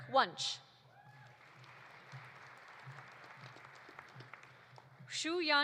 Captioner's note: audience applauding